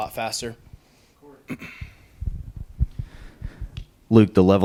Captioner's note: clears throat